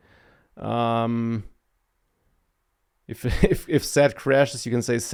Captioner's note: laughs